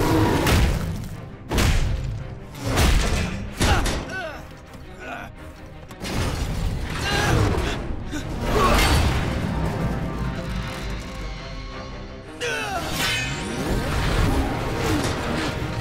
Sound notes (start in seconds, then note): 0.2 thudding; 6.5 grunting; 12.1 grunting, clanking